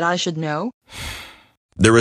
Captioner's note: sighs